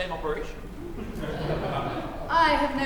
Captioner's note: laughter